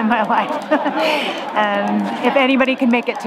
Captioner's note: laughs